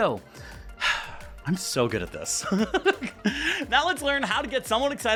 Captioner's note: content sigh